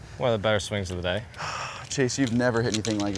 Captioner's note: sighs